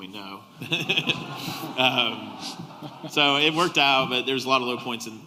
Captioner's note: laughter